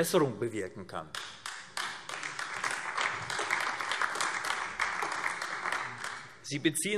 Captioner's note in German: Beifall AfD